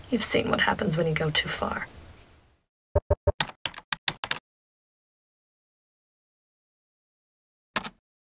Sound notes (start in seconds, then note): 3.3 keyboard clicks